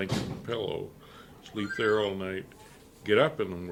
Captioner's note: phone ringing